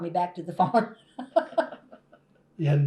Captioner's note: laughter